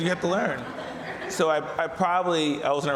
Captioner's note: audience laughs